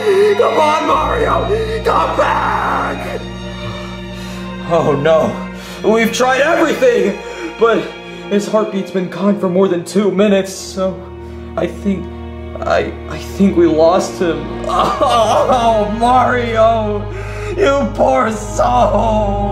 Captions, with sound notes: Come on, Mario, come back! (sad music) Oh, no. We've tried everything, but his heartbeat's been gone for more than two minutes, so I think, I, I think we lost him. (sobbing) Mario! You poor soul!